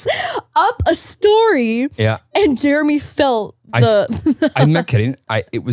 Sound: laughing

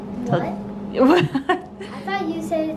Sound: laughing

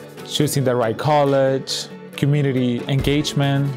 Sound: voiceover

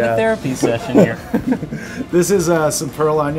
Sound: laughs

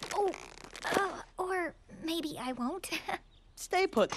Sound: creaking

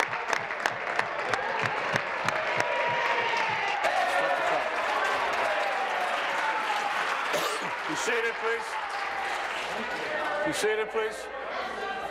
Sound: applause

